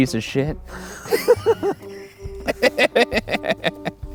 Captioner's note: everyone laughing